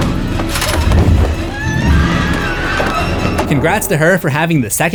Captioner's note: screams